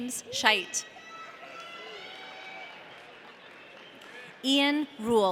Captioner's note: audience cheering